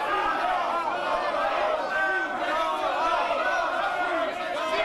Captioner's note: crowd chanting